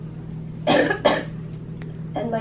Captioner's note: coughing